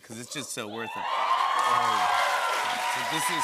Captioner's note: cheers and applause